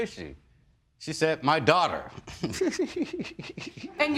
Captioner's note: giggles